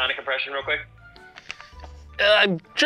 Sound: takes a nervous breath

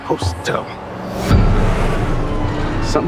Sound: sirens wailing

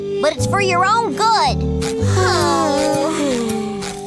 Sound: sighing

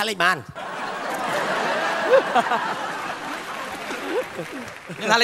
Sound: laughter

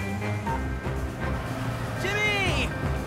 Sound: vehicle approaching

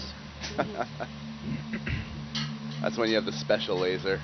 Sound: scientist 2 laughs

